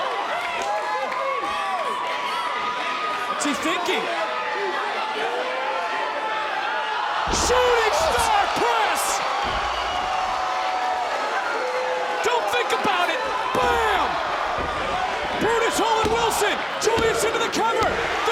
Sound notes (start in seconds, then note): 0.3 audience chattering; 4.6 audience chattering; 6.9 audience cheering